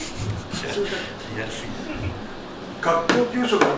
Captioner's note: laughs